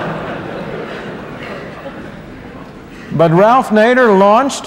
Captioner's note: laughter